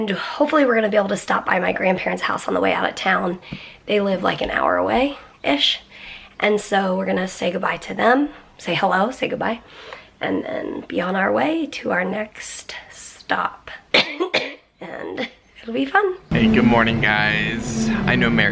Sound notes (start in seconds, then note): 13.9 coughs